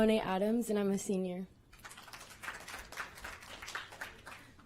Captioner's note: applause